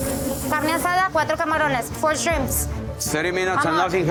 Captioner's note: cook speaking foreign language